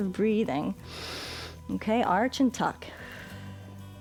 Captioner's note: inhales